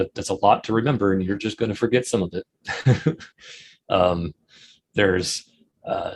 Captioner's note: chuckles